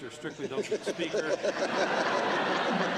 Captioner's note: laughter